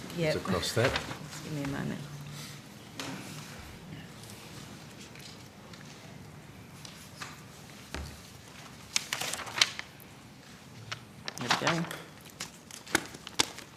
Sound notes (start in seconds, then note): 7.7 papers rustling